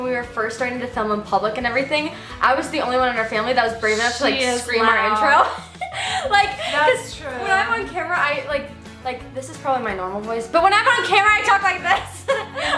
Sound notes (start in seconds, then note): 5.0 laughs